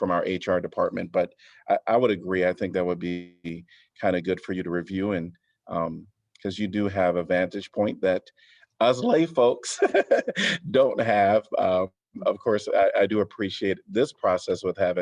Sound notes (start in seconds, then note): 9.6 laughter